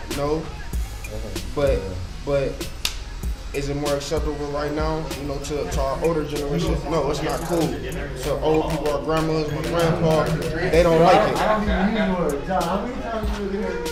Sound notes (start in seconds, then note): 6.3 men chattering